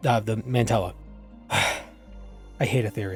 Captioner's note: exhausted sigh